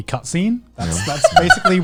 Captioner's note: laughing